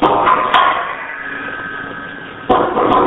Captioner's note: static